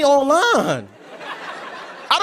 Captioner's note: laughter